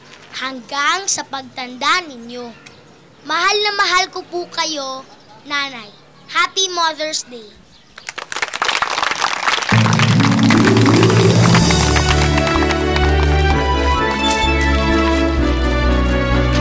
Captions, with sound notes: even in your old age. I love you so much, Mom. Happy Mother's Day! [applause] [happy music playing]